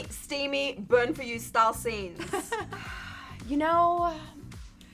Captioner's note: chuckles